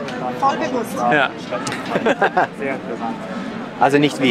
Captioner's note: laughter